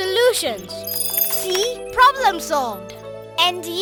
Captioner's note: computer chiming